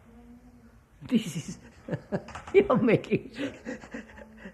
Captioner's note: laughs